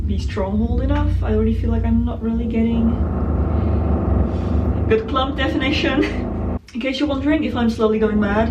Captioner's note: drilling